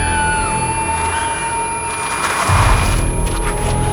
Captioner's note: screaming; car skidding